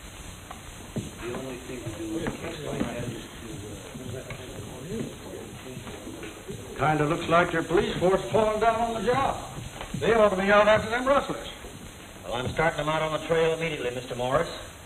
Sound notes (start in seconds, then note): 1.0 muttering